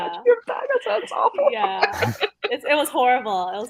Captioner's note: laughs